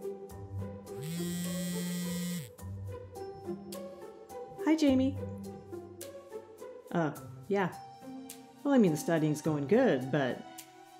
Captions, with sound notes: (phone buzzes) Hi, Jamie. Uh, yeah. Well, I mean studying's going good, but...